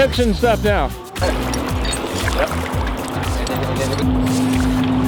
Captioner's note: chains clinking